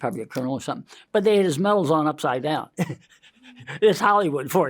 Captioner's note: laughs